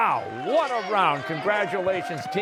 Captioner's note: cheers and applause